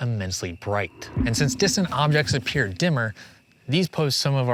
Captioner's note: spacious ping